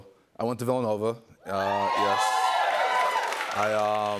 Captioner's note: cheers and applause